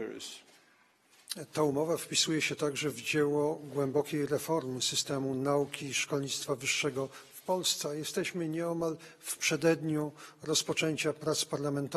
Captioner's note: speaking polish